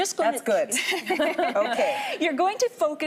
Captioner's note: laughing